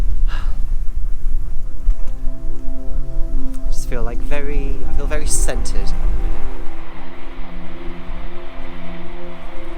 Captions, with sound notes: I just feel like very... I feel very centred. (Train Passing in distance)